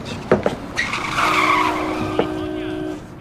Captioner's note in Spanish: Cláxones de coches